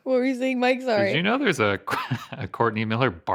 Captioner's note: chuckling